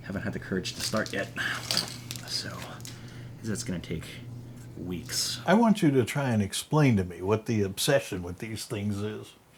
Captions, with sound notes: haven't had the courage to start yet, (framework clacking) 'cause that's gonna take weeks. -: I want you to try an explain to me what the obsession with these things is.